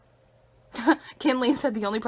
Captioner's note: laughs